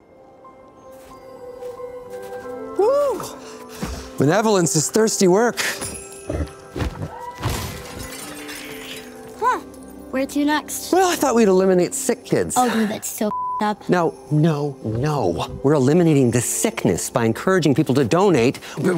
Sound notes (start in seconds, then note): 0.1 holiday music; 5.7 sleigh bells; 6.7 thumps; 7.0 man screams; 7.4 crashing sounds; 8.5 cat screeches